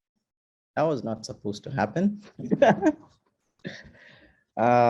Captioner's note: laughs